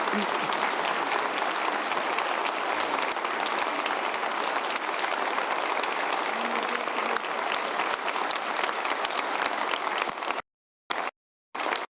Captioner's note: applause